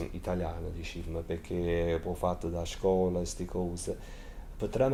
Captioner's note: use Italian